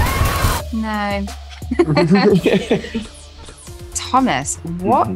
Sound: laughter

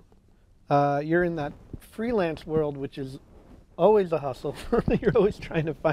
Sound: chuckle

